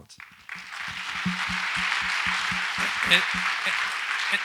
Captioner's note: audience applauds